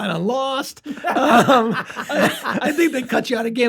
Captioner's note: laughter